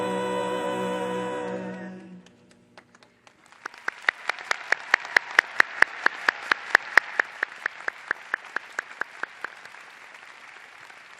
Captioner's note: applause